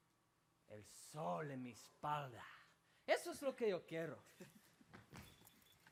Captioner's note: speaking Spanish